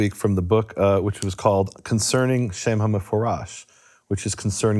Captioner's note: speaks in foreign language